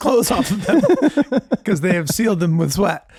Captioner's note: laughing